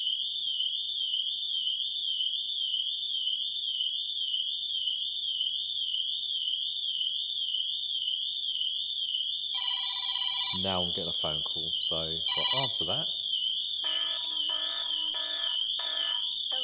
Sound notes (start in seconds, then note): 9.4 phone rings; 13.7 alarm sounds through phone